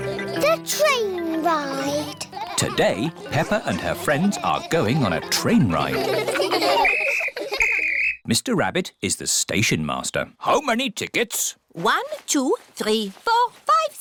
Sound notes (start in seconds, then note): 0.0 laughter; 6.8 blows whistle